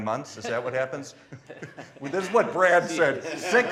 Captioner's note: laughing